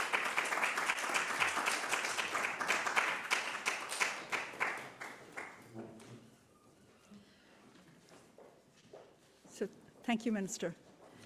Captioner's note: applause